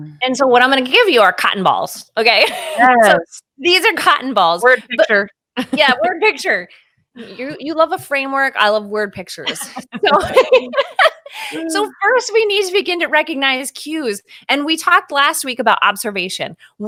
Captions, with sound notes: And so what I'm going to give you are cotton balls, okay? These are cotton balls. We're in picture (laughing). - Yeah, we're in picture. You love a framework, I love word pictures. (both laughing) So first we need to begin to recognize cues, and we talked last week about observation.